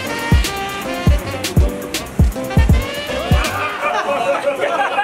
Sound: flowing water; laughing

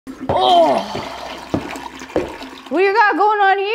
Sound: toilet water flushing

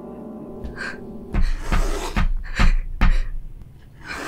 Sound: scratching/knocking begins again

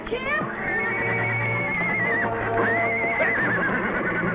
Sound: neighs

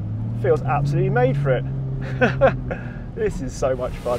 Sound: chuckles

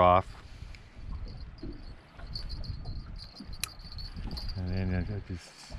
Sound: jangling

